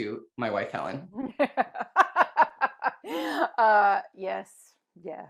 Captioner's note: laughs